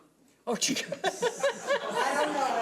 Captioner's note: laughing